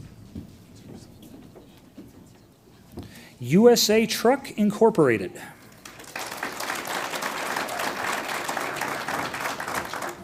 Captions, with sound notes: USA Truck Incorporated. (audience applauds)